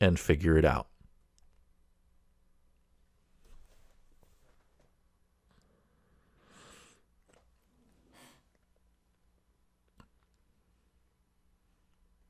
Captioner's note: pause